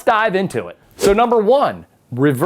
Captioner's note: letters whoosh